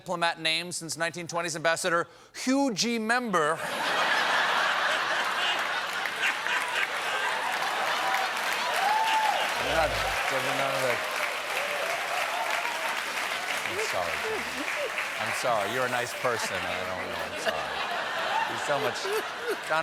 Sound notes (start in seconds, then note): 3.6 laughter; 4.3 applause